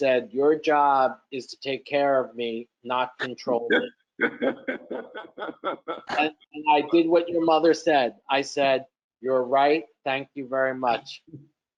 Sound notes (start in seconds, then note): 4.2 laughing